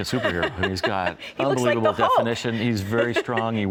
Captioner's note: laughs